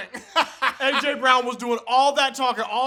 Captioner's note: laughter